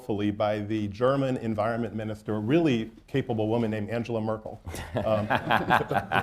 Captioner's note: laughter